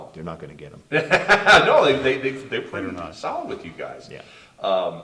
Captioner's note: laughs